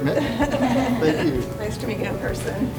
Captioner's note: laughing